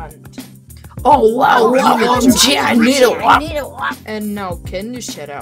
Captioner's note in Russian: Звуки офигивания